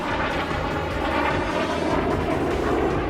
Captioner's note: aircraft noise